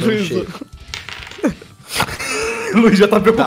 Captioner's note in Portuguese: risos